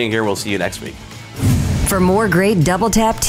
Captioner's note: whoosh